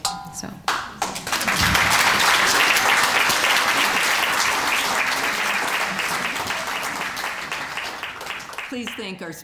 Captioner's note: applause